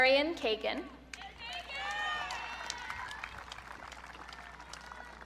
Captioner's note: audience cheering